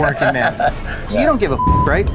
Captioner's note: laughs